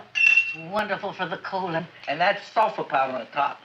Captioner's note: spoon clinking